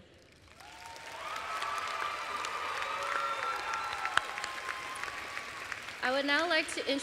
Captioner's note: applause and cheers